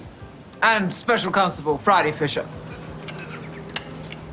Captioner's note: Phryne in a deeper voice